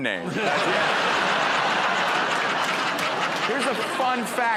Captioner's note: laughter